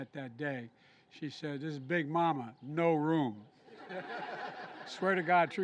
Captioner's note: laughter